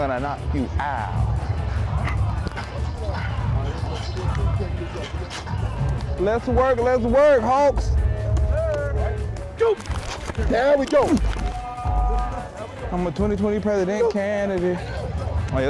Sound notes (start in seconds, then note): 2.2 fighting noises